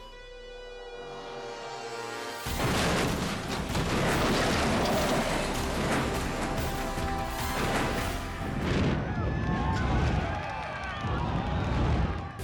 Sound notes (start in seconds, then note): 2.5 car crunching; 8.8 spectators cheering